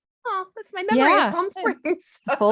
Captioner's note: laughs